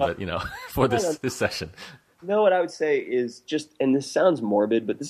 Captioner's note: laughs